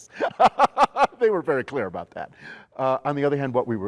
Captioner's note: laughs